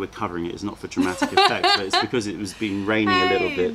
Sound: laughter

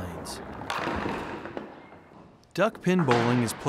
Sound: bowling pins falling

